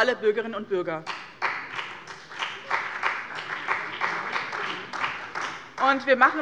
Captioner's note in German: Beifall bei dem BÜNDNIS 90/DIE GRÜNEN und der CDU